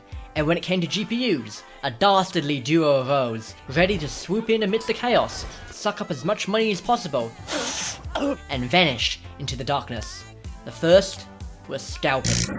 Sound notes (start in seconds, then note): 7.4 wheeze; 7.4 cough